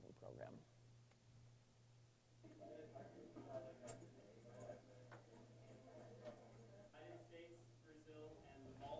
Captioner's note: background Discussion